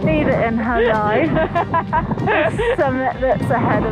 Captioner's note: laughing